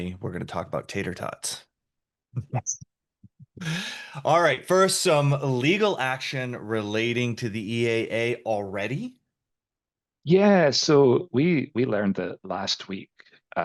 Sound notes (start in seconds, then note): 3.3 chuckles